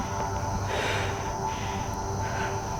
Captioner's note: both breathing heavy